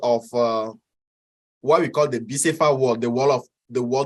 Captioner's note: speaks in foreign language